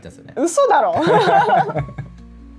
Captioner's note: laughs